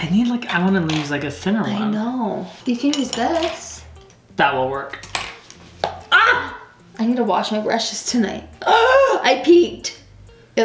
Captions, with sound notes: I need like, I want to use a thinner one. - I know, you can use this. - That will work. - I need to wash my brushes tonight. (gasp) I peeked!